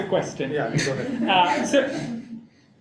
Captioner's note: laughing